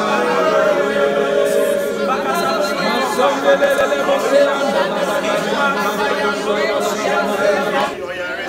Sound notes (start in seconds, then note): 3.7 praying in diverse tongues